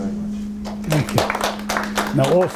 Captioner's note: applause